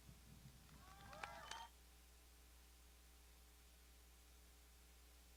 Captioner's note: crows applauding